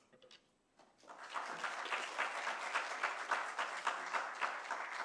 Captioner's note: applause